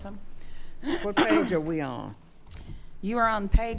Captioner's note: clears throat